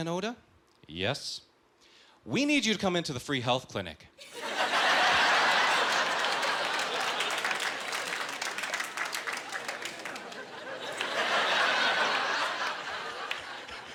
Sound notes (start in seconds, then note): 4.5 laughing